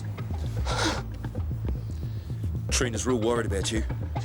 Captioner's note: Dean panting